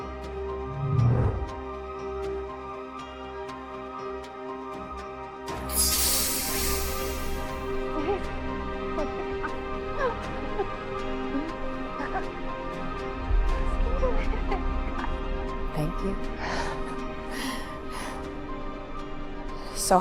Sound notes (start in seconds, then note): 0.6 orb whooshing; 5.7 transition sparking; 8.4 laughing; 18.0 laughing